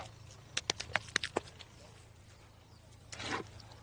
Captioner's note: clay squishing